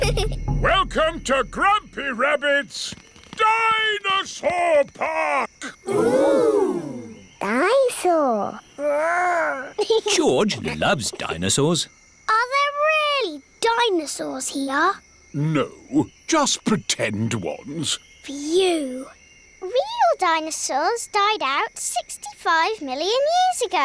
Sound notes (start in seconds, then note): 9.6 giggles